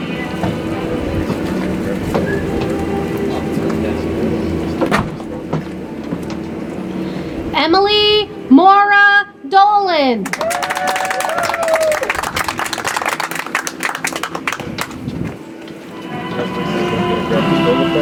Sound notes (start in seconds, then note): 10.2 audience applauds; 15.5 soft music